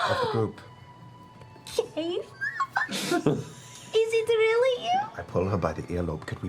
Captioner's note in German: schnappt nach Luft